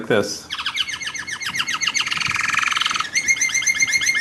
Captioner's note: bird song